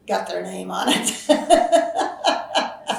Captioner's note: laughs